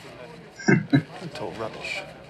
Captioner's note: chuckling